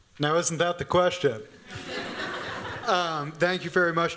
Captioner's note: laughter